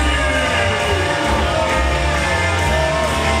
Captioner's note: boo-ing